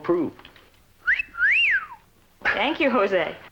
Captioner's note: wolf whistle